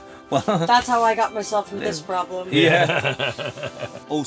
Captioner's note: laughs